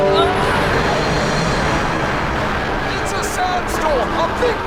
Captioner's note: wind whistling